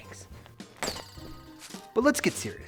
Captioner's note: arm squeaks